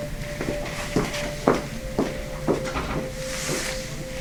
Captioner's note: footsteps receding